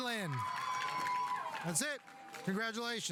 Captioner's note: audience cheering; audience applauding